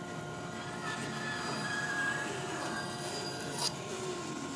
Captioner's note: sawing